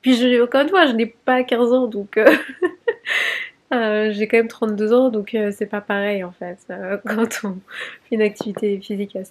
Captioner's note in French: rires